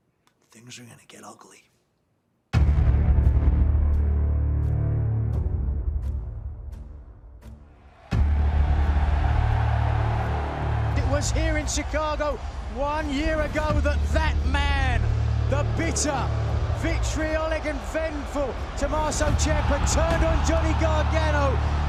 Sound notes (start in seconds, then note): 8.9 cheers and applause